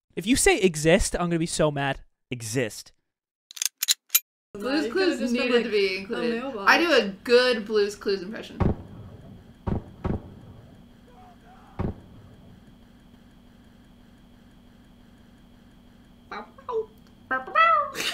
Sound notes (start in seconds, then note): 8.6 gun shots from upstairs; 10.9 muffled screaming GIRLS NIGHT; 11.7 final gunshot